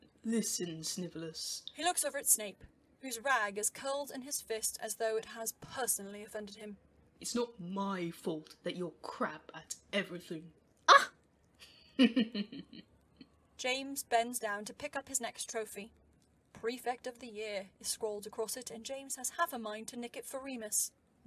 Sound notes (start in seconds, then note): 12.0 James laughs; 12.0 Snape makes an indignant noise